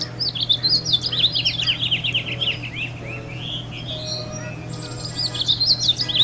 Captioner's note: birds chirping